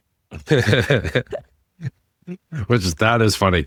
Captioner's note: both laughing